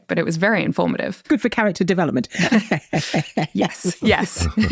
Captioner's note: chuckles